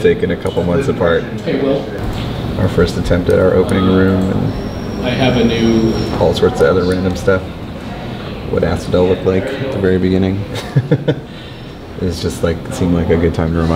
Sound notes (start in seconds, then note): 10.4 laughing